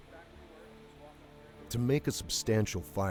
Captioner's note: voiceover